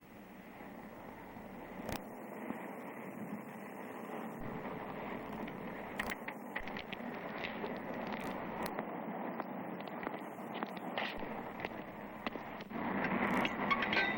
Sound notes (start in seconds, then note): 0.1 ambient noise, footsteps